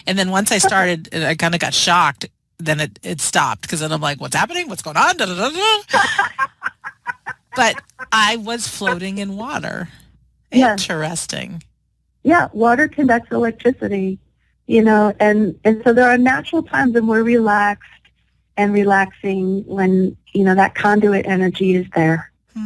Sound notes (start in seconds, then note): 5.8 laughter